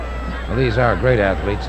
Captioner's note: audience hollering